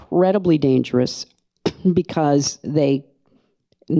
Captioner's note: coughs softly